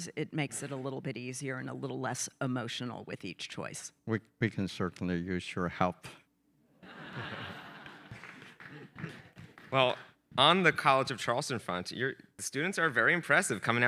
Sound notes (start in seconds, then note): 6.8 audience chuckling; 8.7 audience members applauding